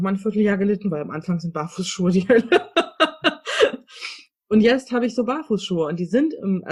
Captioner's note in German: lacht